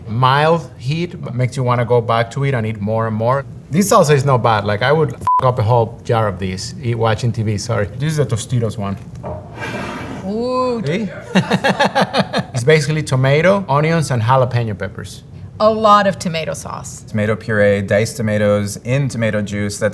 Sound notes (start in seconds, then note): 9.4 jar sliding; 11.2 laughing